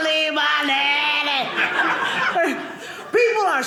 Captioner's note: audience laughing